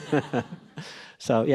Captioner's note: laughs